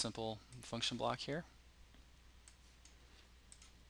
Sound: pause

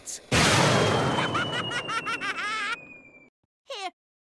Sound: douchebag laugh

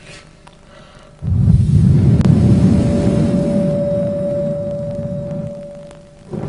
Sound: blows into the microphone

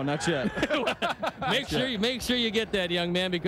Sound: laughter

